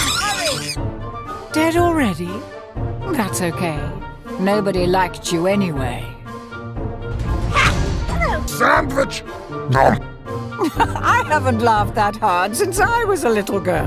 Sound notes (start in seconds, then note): 8.4 deep voice